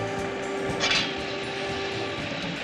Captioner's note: engine faltering